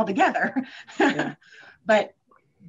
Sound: chuckles

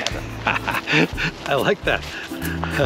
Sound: laughs

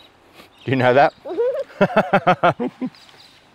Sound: both laughing

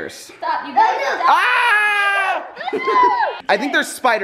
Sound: screaming

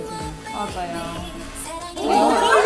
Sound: growl

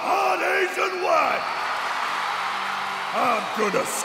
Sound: crowd cheers

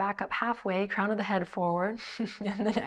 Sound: chuckles

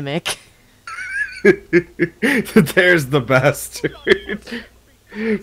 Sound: laughing

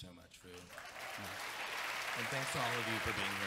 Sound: audience clapping

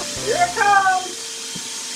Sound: machine whirring

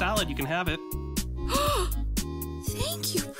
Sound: gasps

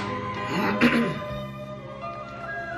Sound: clears throat

